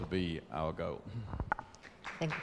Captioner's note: applause